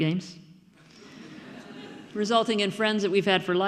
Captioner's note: audience laughing